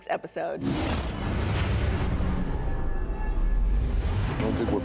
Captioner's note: computerized swoosh